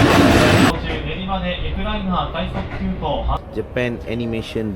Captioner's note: speaking Japanese